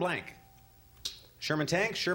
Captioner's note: ding